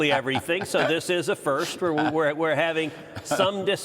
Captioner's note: laughter